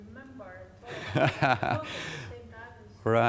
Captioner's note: laughing